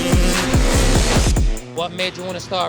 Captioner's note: swoosh sfx